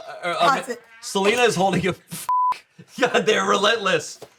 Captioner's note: beep